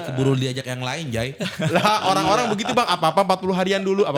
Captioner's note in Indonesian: tertawa